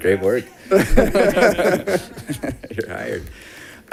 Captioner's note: audience laughing